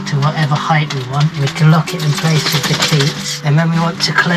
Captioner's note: Sound of Keeva shaking